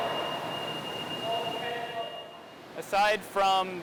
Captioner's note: beeping